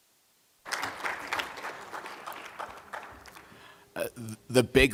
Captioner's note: applause